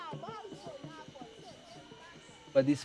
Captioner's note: jungle sounds